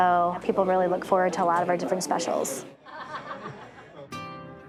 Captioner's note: chuckles